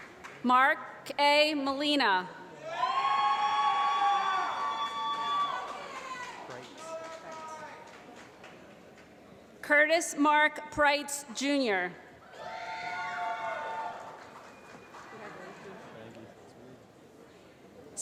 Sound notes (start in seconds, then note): 2.6 applause; 13.5 applause